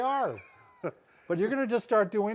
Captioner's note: laughs